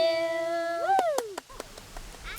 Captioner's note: clapping